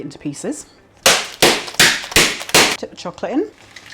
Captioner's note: smack smack smack smack